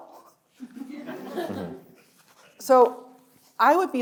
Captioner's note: audience laughs